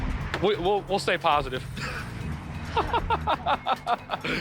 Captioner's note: laughs